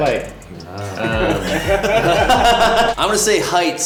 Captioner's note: laughing